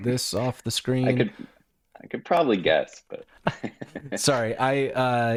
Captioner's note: chuckling